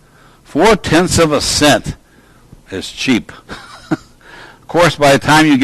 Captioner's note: laughs